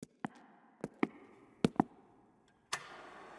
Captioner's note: feet clomping